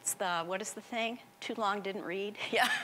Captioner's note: laughing